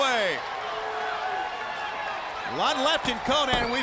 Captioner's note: crowd cheering